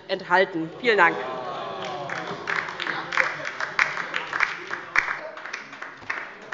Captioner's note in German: Heiterkeit und Beifall bei der LINKEN